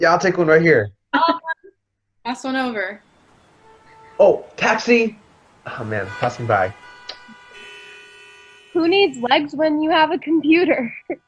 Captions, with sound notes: - Yeah, I'll take one, right here. - I'll have one. - Pass one over. - Oh, taxi! Oh man, it's passing by. (car horn beeping) - Who needs legs when you have a computer.